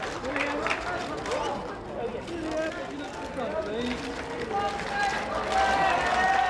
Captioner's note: crowd chattering; cameras clicking